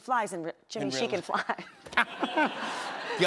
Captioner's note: laughter